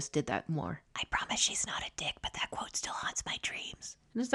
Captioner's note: whispering